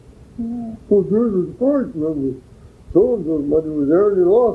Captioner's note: imitating old person